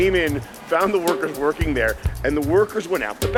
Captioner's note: laughing